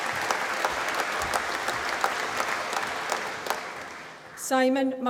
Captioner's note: applause